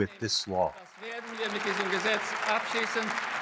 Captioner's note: applause